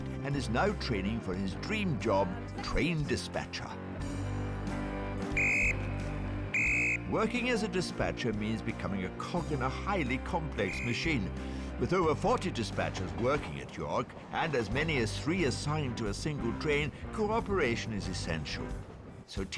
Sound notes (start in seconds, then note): 6.4 whistle tweeting